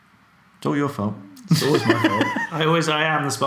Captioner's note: laughs